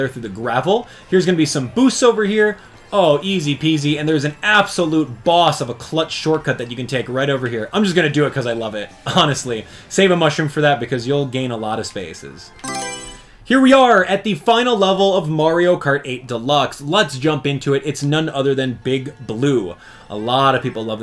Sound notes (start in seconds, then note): 12.6 Mario Selection Sound